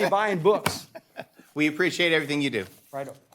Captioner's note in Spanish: Risas